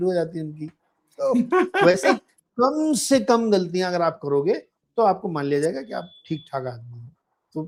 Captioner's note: laughter